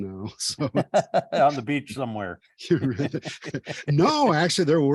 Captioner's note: laughing